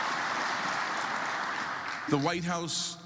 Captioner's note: applause